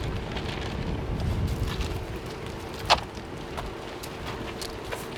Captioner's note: loud clatters